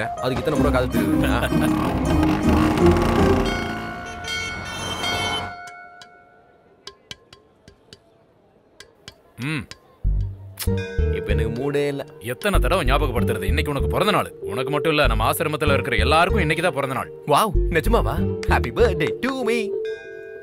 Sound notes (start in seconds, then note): 3.2 temple bell rings